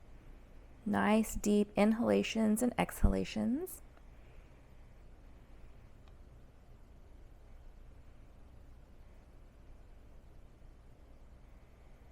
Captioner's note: blank Audio